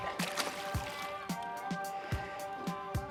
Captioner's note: water splashing; energetic music